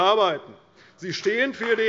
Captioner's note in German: Beifall bei Abgeordneten der CDU und dem BÜNDNIS 90/DIE GRÜNEN